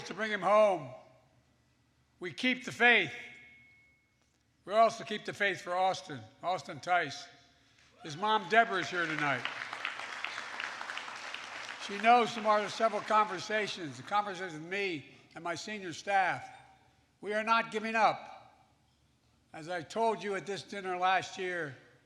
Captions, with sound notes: to bring him home. We keep the faith. We also keep the faith for Austin -- Austin Tice. (Applause.) His mom Debra is here tonight. (Applause.) She knows from our several conversations -- the conversations with me and my senior staff -- we are not giving up. As I told you at this dinner last year,